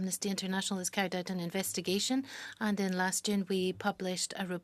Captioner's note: speaking French